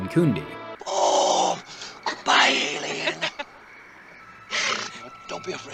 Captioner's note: laughing